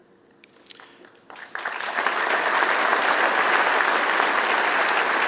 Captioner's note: applause